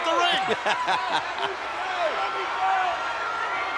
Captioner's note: laughs